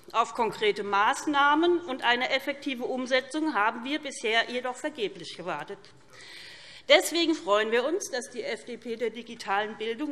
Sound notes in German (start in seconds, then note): none